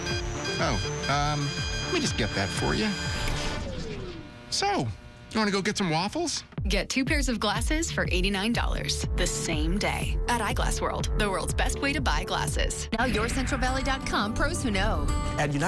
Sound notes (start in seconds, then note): 0.0 accelerated beeping; 2.9 click, powering down